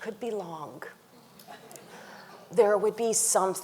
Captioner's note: audience chuckling